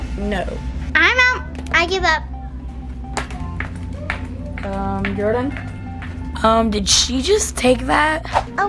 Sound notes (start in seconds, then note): 4.0 shoes clacking